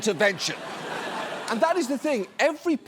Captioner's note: audience laughs